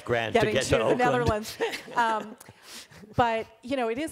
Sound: chuckles

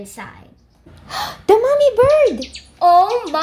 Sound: gasps

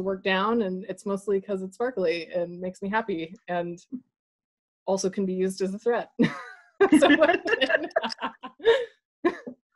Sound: laugh

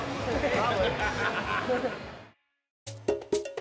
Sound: laughter

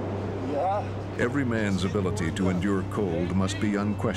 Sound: voiceover

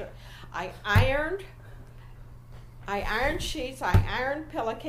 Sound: louder now, hits table in rhythm with verbs

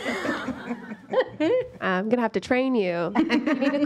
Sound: laughter

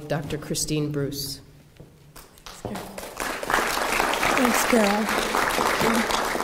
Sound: applause

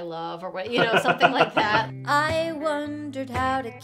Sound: laughing; strumming guitar music

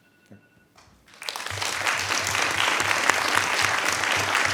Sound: applauding

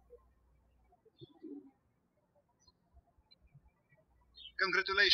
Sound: birds chirping

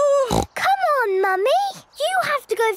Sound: snorts

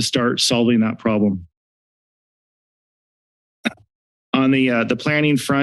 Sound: silence

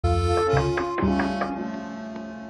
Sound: knocking

